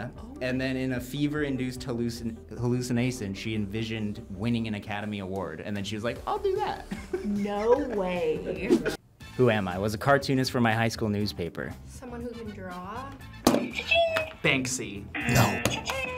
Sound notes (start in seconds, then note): 6.9 laughs; 13.5 buzzer rings; 15.6 buzzer; 15.9 buzzer rings